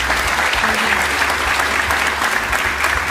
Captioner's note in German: Applaus